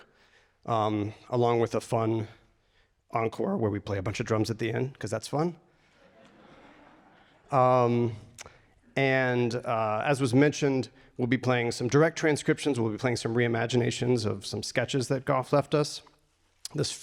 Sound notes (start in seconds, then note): 6.0 audience laughter